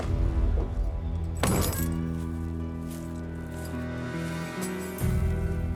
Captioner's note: tense music; trunk closes, keys jangle